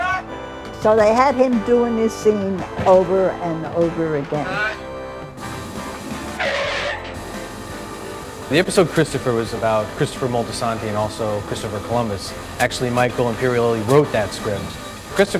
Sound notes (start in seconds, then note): 6.9 tires screeching